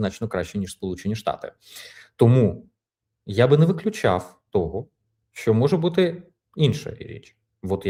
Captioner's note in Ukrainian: сопіння